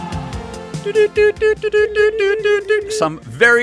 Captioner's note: morse Code noises